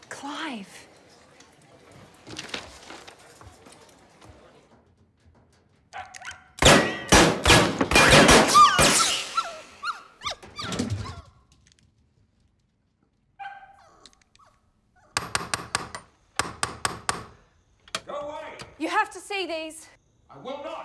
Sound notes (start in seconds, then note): 8.2 pattering, small bark; 9.2 whimpers; 13.4 small bark